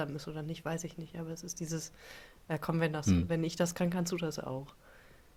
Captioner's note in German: räuspern